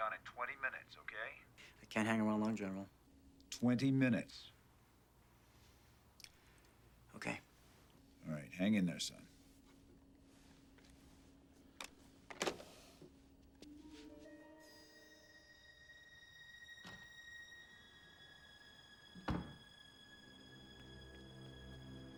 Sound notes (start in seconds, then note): 12.7 phone thuds; 13.6 suspenseful music; 19.2 door thuds